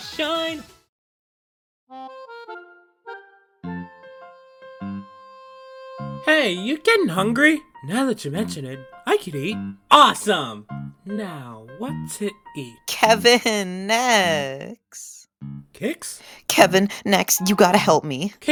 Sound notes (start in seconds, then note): 12.9 calling